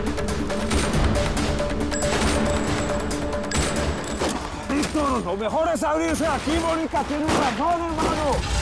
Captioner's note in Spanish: Disparos